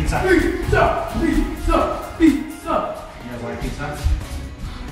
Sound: chanting

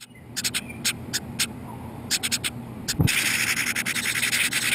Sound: house wrens chirping

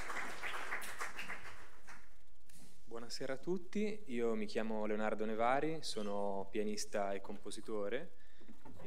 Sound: applause

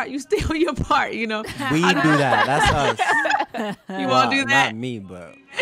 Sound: laughing

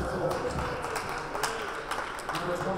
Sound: players applauding

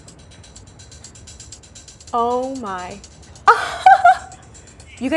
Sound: upbeat music; laughs

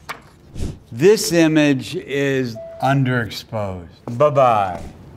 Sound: image whooshes; photo dings

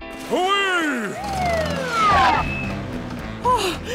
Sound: sirens

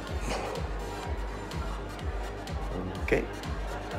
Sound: blowing smoke

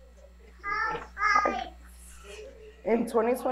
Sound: babbling

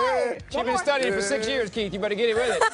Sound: laughing

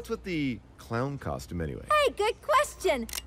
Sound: gun cocks

